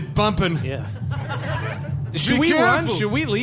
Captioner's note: audience laughter